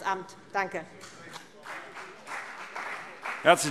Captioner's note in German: Beifall CDU und BÜNDNIS 90/DIE GRÜNEN